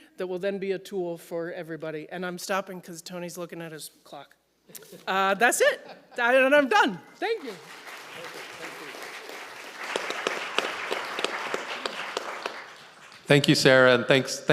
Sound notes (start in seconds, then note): 7.2 audience applauding